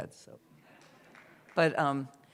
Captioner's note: laughter, scattered applause